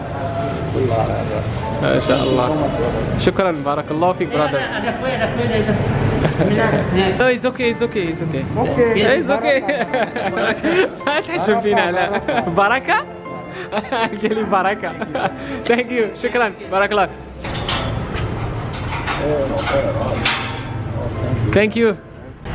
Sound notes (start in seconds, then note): 6.9 laughter; 17.3 doors open